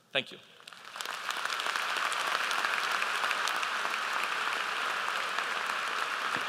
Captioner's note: applause